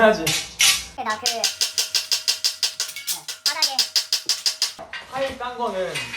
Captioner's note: hammering 3333